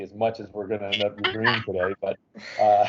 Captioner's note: laughing